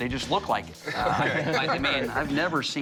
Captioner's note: laughs